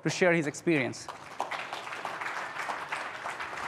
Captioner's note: applause